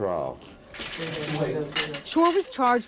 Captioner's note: cameras clicking